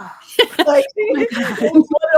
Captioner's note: laughs